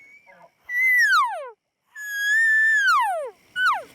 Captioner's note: elk calling